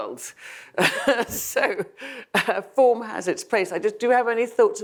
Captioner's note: laughs